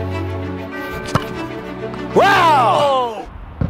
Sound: whoa

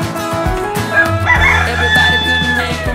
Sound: rooster crowing

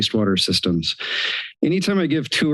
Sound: inhales

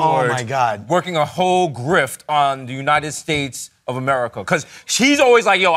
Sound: none

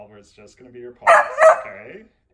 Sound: Oliver barks

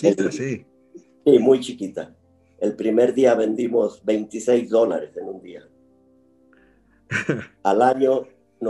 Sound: laugh

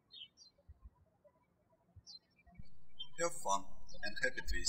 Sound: birds chirping

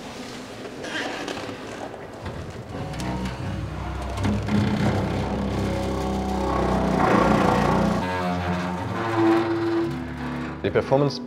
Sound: chair scraping noises

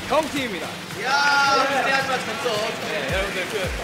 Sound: an applause

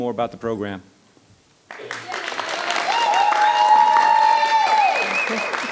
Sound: audience applauding

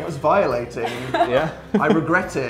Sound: laughter

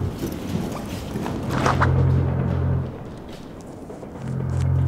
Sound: chains clattering; zipper unzips

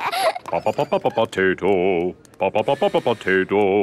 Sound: children laughing; sing-song voice

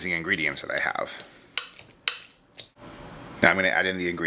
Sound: stirring

